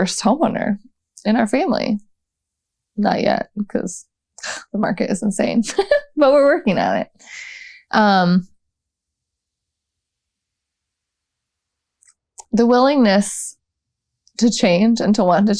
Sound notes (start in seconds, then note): none